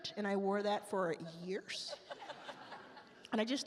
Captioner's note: attendees laugh